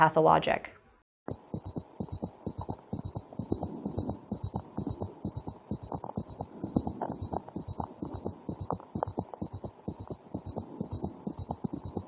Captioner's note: heart beating